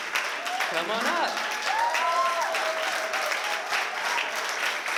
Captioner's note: applause